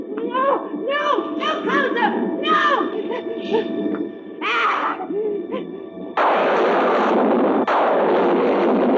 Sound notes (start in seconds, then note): 4.4 groaning; 6.2 thunder crashing